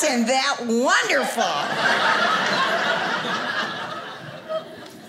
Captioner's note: audience laughing